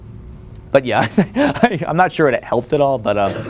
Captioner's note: laughs